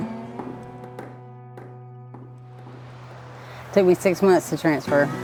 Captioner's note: hammer banging